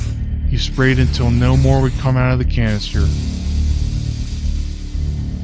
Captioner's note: spraying